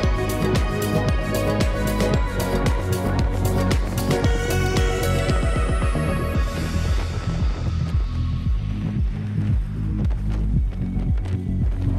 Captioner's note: wind blowing